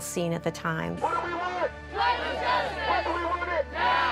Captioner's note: crowd responds